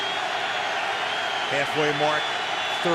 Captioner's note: crowd cheering